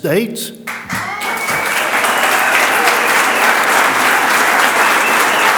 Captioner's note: audience cheers and applauds